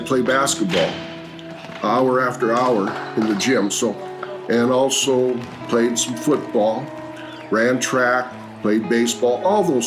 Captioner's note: sounds of basketball game in a gym